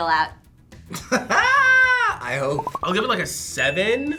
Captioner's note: laughs